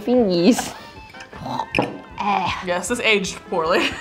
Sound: laughing; gagging

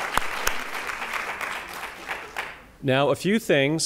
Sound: applause

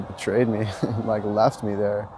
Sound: laughs

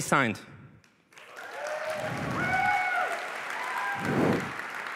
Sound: applause

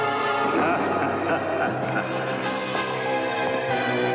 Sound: laughing

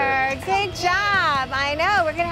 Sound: chattering

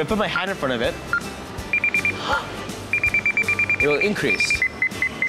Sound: high pitch beeps

